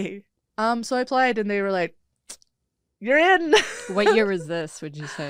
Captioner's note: laughs